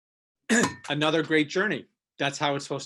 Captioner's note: clears throat